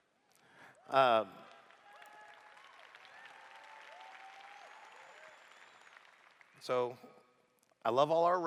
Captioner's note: applause